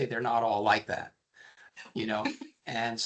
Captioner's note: laughing